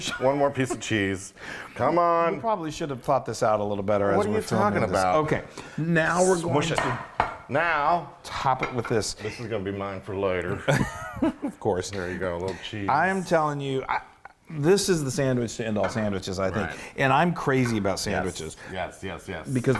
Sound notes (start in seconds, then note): 10.5 laughs